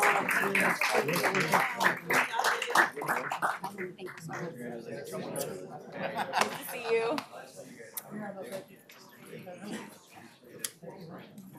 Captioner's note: applause